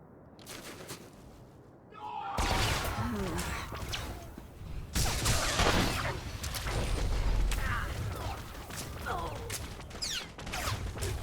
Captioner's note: gunshots